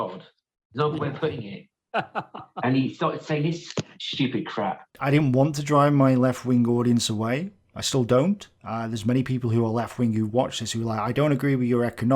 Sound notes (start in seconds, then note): 1.9 laugh